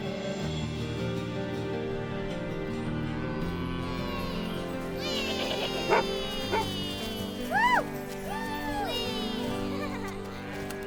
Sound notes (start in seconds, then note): 4.9 children yell; 5.4 cow moos